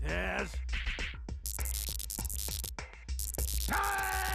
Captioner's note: electronic buzzing